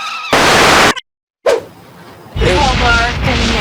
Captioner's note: brakes squealing; television static